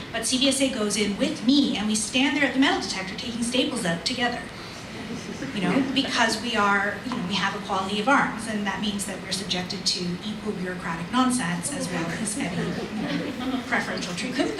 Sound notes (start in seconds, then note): 4.9 audience laughs